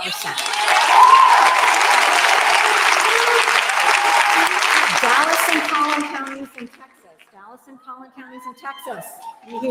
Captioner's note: applause